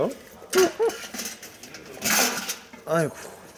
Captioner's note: rustling